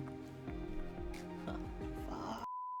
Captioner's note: grunts